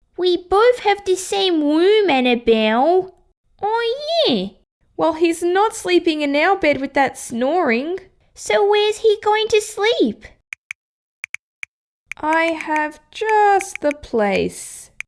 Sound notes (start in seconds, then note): 10.6 typing!